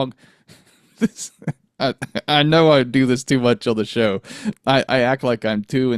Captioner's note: chuckles